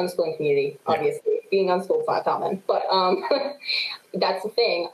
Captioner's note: chuckles